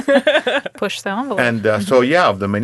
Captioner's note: laughing; speaking quietly